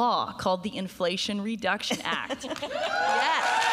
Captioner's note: applause; laughs